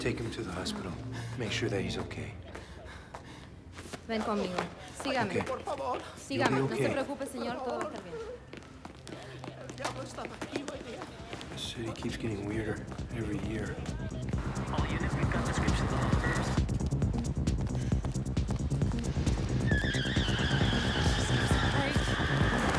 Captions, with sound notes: - Take him to the hospital, make sure that he's okay. (officer speaks foreign language) You'll be okay. This city keeps getting weirder every year. (muffled radio chatter) (suspenseful music) (tires screech) - Jesus Christ.